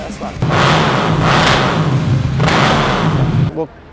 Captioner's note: engine revving